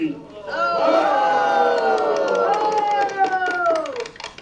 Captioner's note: shouting